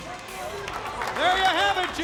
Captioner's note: wrestlers applaud